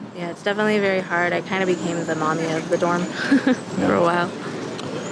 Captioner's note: chuckles